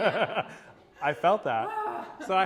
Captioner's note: laughter